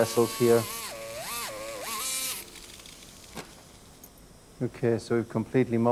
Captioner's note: drill buzzing continues